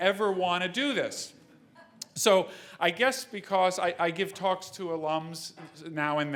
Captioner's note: laugh